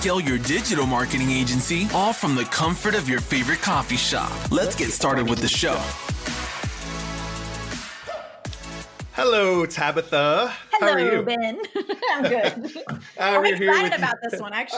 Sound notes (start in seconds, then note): 4.6 voice echoes; 10.7 laughs